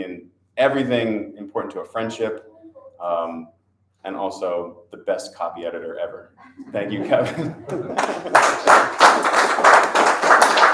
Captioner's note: audience applause